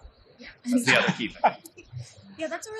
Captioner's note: laughing